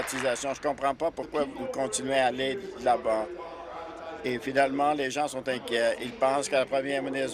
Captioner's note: applause